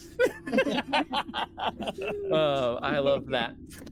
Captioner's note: all laughing